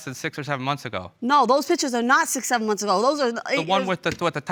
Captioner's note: none